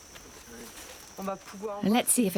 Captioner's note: speaking foreign language